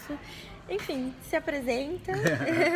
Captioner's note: chuckles